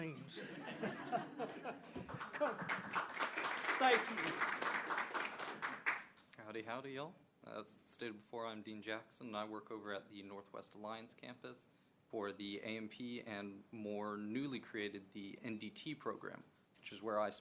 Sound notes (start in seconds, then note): 4.1 laughing; 5.1 applause